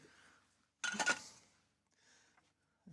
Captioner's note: silence